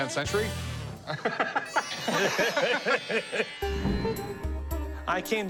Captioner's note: laughter